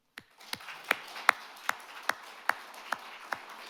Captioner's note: audience claps